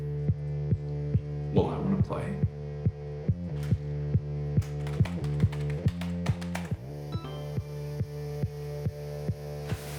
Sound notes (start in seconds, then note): 4.6 determined typing; 6.8 access chime